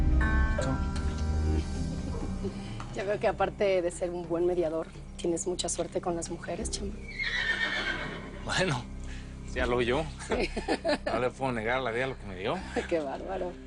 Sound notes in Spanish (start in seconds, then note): 7.0 Relinchos; 10.2 Risas